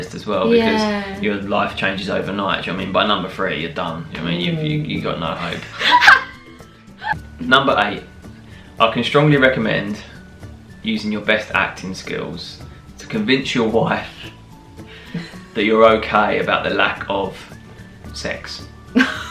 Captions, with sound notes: as well because your life changes overnight, I mean by number three you're done, you've got no hope. (laughs) - Number eight, I can strongly recommend using your best acting skills to convince your wife that you're okay about the lack of sex.